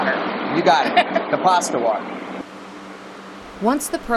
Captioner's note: chuckles